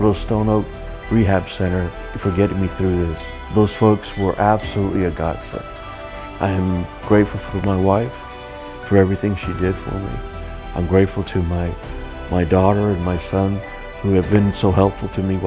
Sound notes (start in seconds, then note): 3.1 bell ringing